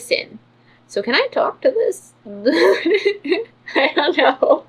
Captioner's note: laughs